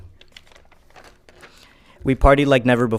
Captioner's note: paper rustling